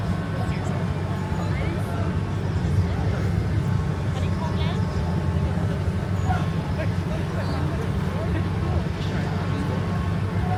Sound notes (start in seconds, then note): 6.8 wheels squeaking